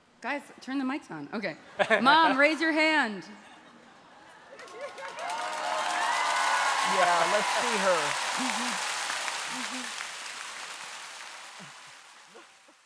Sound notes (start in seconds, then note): 4.3 audience laughing; 4.9 audience cheering; 9.1 audience cheering